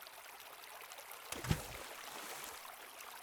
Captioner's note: splash